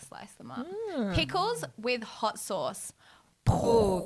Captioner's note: mimics explosion